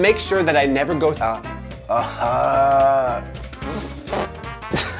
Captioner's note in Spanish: Frank quejándose; Frank farfulla